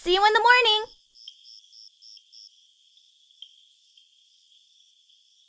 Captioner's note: insects chirping